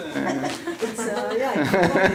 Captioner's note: laughter